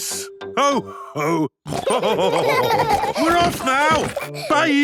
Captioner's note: laughter; honking